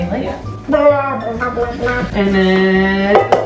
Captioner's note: gurgles